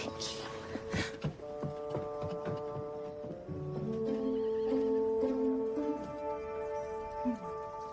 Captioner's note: whispers